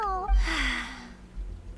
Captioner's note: sighs